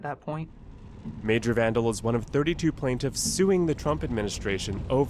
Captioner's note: voice-over